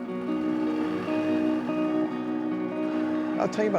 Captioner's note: engine humming